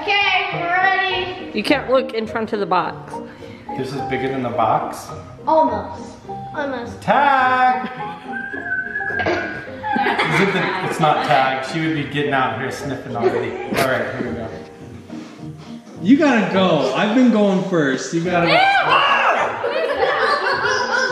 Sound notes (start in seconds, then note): 8.2 whistling; 9.1 laughing; 18.6 yelling; 19.2 laughing